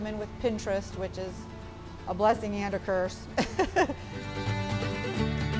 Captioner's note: laughs; upbeat folk music